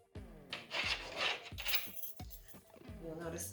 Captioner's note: scratching and bell ringing